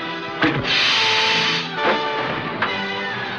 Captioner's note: gun zaps; triumphant music